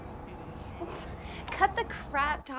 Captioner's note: Nicki scoffs